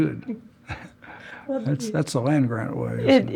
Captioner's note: laugh